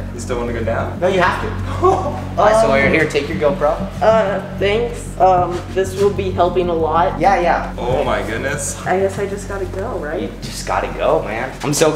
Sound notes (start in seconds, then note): 1.3 chuckling